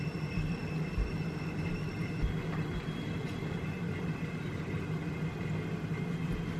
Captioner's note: that's the sound of rice cooker in the back